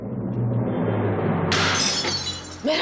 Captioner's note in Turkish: Kırılma sesi gelir